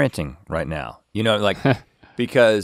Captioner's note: chuckles